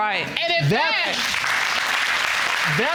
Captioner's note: audience applauds